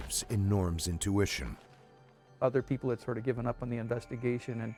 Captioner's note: voiceover